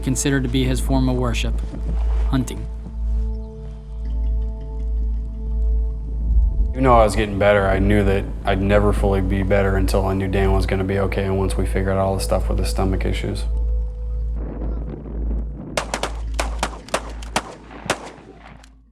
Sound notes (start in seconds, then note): 15.7 guns firing